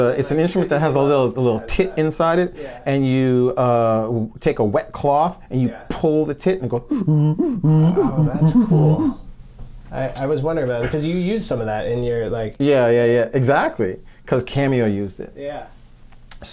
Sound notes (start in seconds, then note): 6.8 singing inhale and exhale rhythms